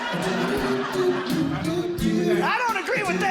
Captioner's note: audience Laughing